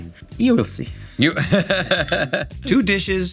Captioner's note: laughing